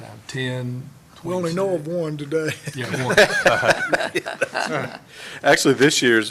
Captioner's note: laughter